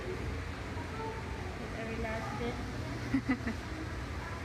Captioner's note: laughs